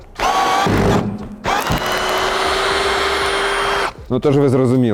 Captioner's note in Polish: dźwięk wkrętarki